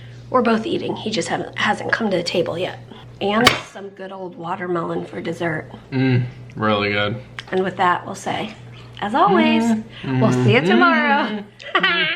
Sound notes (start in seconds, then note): 9.1 hums along; 11.1 laughs